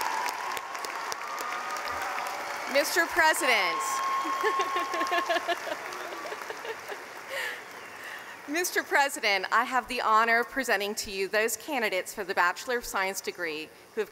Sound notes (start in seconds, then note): 4.3 laughing